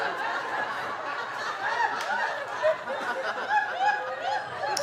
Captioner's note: audience laughing